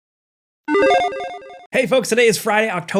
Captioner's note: electronic chiming